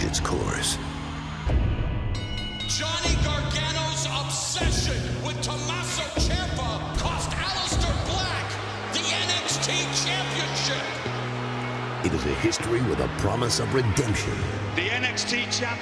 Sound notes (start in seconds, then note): 3.8 bell ringing